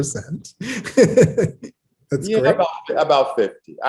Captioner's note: laughs